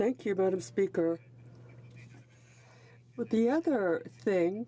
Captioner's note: speaking in french